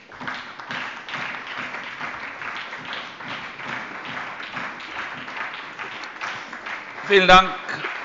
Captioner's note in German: Beifall bei der SPD und der LINKEN